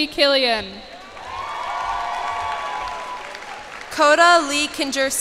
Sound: cheers and applause

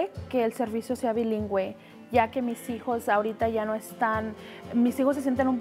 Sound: speaking Spanish

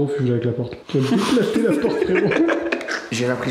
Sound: laugh

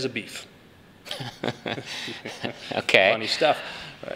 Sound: laughter

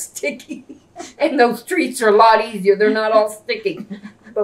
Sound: laughs

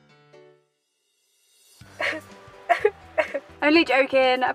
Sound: crying

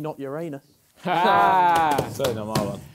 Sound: laughter

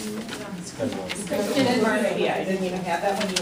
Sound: voiceover

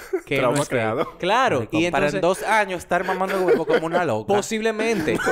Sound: laughs; laughs

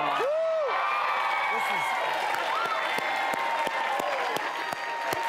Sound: audience cheering

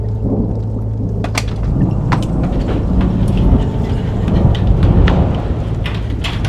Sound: thunder crashing

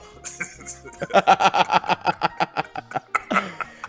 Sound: laugh

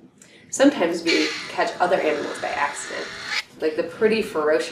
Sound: sound, growel and hiss

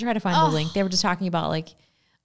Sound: sighs

